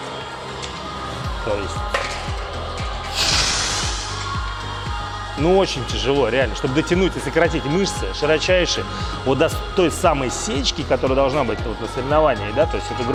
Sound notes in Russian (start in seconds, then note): 3.1 Выдох